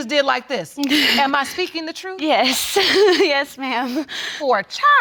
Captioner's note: chuckling